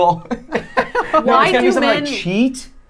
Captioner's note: laughing